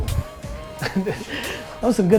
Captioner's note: laughter